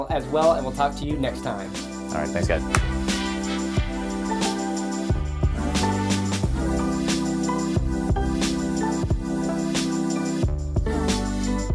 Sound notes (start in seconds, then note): 2.6 clapping hands; 4.7 upbeat music